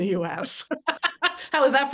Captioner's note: laughter